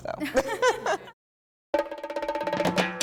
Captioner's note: laughing